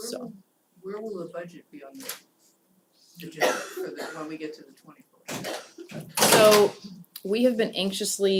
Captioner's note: cough